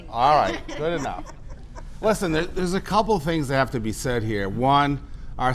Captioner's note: laughter